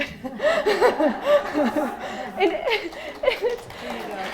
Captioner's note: laughing; clapping